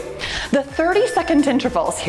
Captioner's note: timer beeps